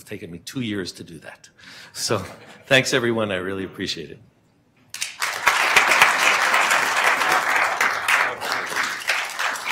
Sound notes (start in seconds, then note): 4.9 applause